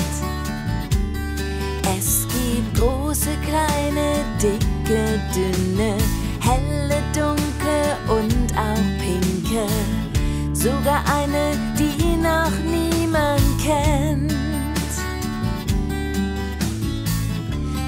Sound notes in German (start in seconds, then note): none